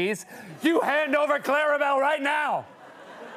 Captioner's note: laughter